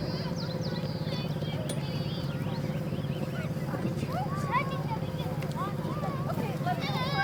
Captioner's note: children chattering; birds chirping